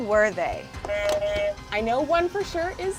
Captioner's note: buzzer buzzes